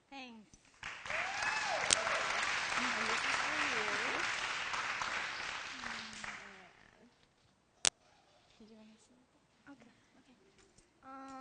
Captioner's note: applause and background discussion